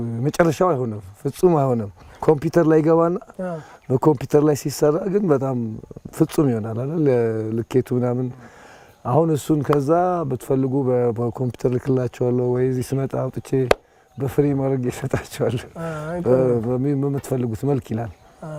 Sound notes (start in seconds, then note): 15.5 laughter